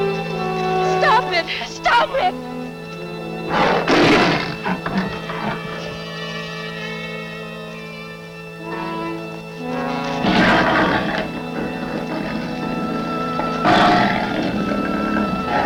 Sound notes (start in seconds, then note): 3.3 growling